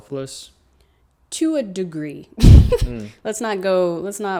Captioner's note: laughs